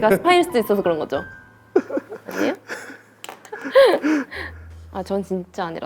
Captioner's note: just laughing